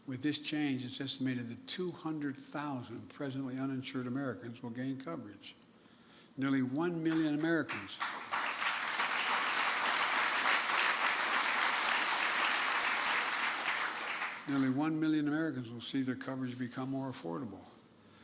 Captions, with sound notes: With this change, it's estimated that 200,000 presently uninsured Americans will gain coverage. Nearly one million Americans -- (applause) -- nearly one million Americans will see their coverage become more affordable.